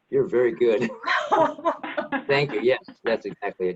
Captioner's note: laughing